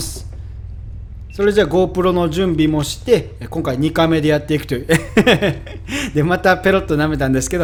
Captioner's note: haha